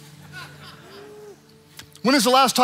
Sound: congregant laughing

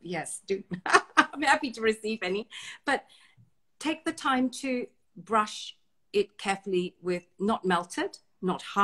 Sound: laughs

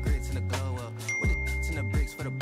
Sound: bell dinging

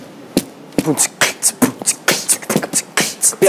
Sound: beatboxing

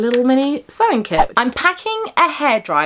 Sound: screen whooshing

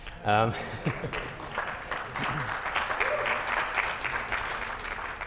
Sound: applause

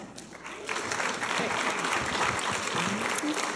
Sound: applause

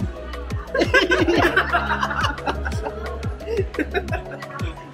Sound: everyone Laughs

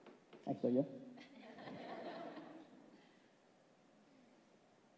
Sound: laughs

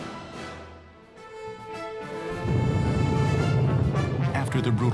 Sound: explosions

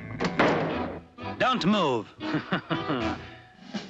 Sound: chuckles

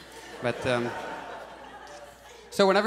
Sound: audience laughs

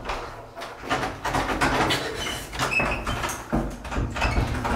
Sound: door banging

